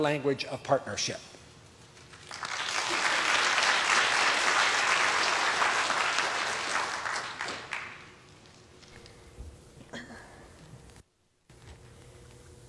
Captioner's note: applause